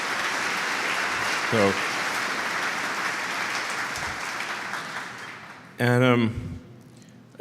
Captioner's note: Applause; 掌声